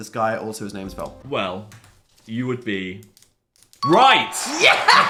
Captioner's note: bell chiming; laughing